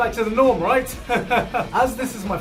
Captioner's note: pained laughter